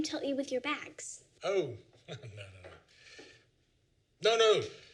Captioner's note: laughs